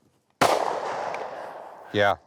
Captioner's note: gun bangs